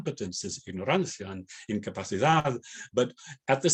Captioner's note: spanish